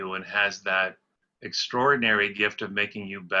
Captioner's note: none